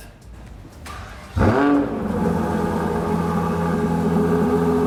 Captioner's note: car engine revs